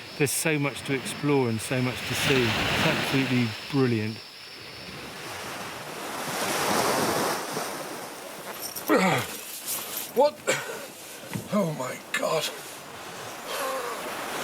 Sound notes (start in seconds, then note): 6.3 water splashing